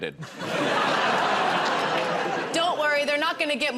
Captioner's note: laughter